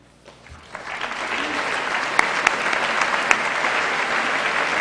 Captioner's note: applause